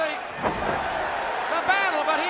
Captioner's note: crowd cheering